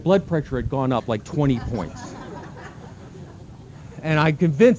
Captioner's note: laughter